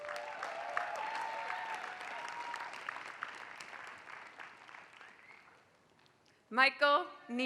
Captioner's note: applause